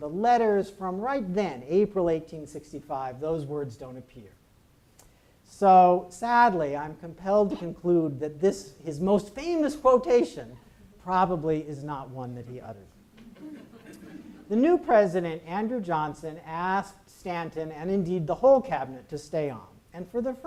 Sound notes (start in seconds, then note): 13.1 audience laughs